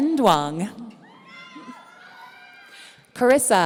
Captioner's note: audience cheering